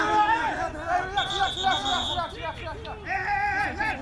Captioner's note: whistle